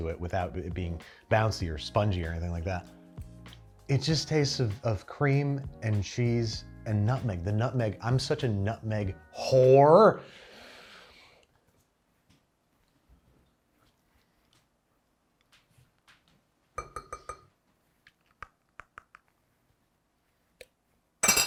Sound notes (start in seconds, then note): 16.8 plate clinks; 18.4 teeth patter; 21.2 plate clinks